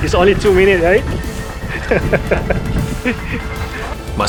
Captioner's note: laughs